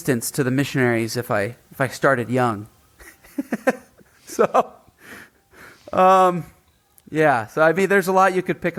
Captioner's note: chuckling